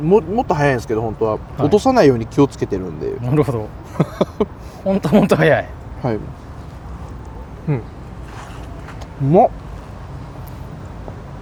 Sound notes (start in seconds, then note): 3.7 laughs; 7.5 laughs